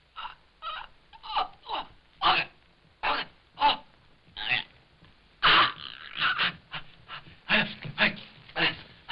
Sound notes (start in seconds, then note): 1.1 choking